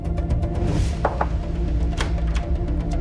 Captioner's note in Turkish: Kapı vuruldu